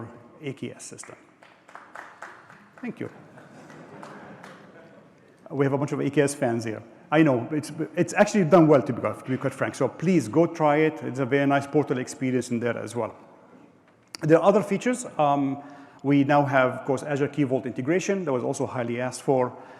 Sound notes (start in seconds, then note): 4.3 applause